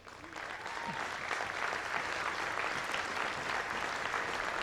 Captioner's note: audience applauding